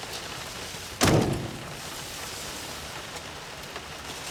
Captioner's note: door thudding